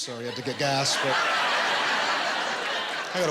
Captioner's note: laughter